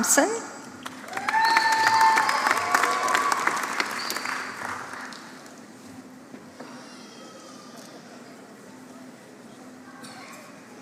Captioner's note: applause